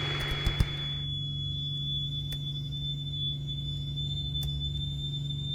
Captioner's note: the static stops